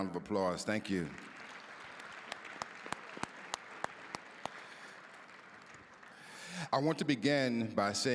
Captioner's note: applause